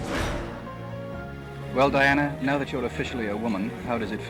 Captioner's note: whoosh